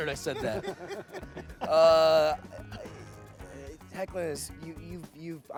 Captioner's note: laughing